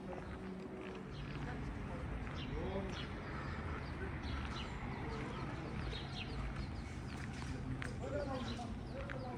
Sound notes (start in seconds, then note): 0.6 people chattering